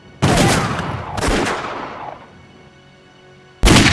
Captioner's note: explosion